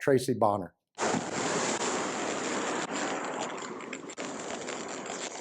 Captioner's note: fuzzy audio feedback